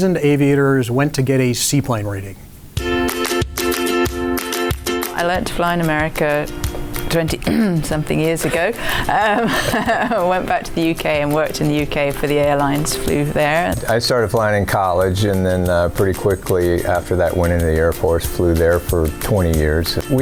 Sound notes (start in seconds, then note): 2.8 upbeat music; 7.4 clears throat; 8.1 laughs